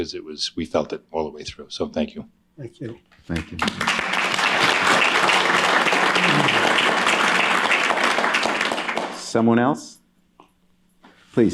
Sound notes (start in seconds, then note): 3.2 applause